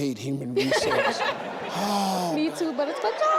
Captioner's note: audience laughs